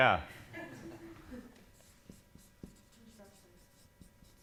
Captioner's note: laughing